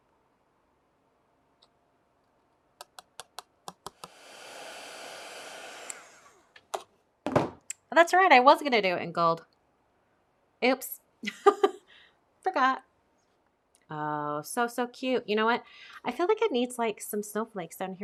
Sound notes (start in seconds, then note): 3.8 blower whirring; 11.2 chuckles